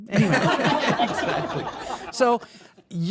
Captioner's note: audience laughing